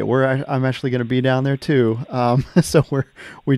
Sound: laughs

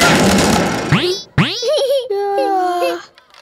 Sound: laughing

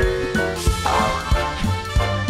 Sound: boing

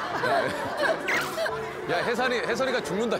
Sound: they laugh

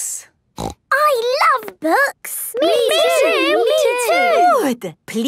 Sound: snorting

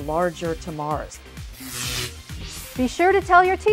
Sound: sound Effects

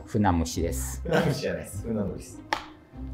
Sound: laughing

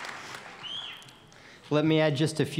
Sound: cheers and applause

